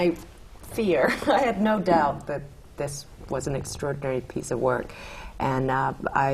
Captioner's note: laughter